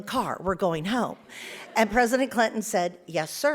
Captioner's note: audience laughs